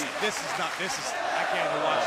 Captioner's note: crowd cheering